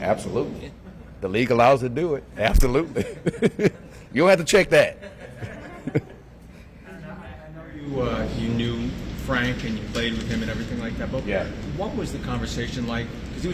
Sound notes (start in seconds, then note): 2.8 laughing; 6.8 laughing